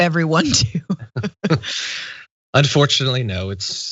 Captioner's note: laugh